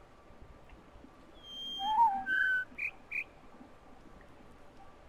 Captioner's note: bird warbling ˩˧˩ ˥; bird chirps four notes